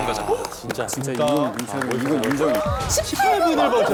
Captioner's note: applause of approval